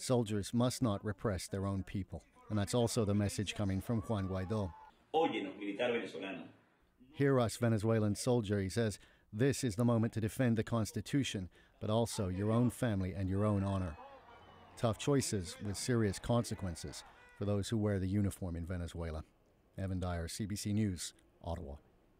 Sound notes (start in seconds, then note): 12.3 speaking Alternate Language